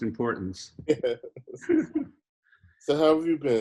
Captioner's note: laughing